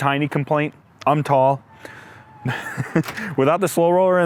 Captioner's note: laughs